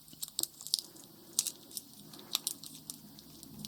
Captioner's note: tape crinkling